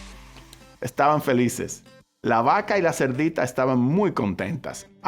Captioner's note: speaking Spanish